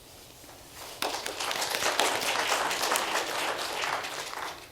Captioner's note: applauding